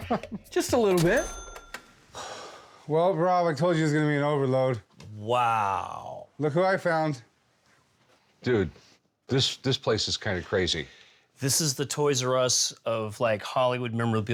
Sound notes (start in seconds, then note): 2.1 sighs